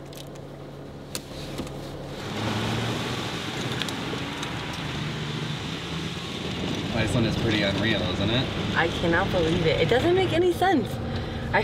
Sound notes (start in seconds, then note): 0.2 clicking; 1.1 tires crunching over gravel